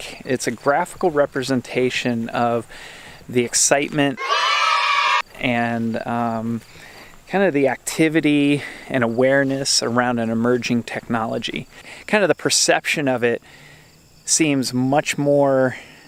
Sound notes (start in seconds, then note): 4.1 people cheering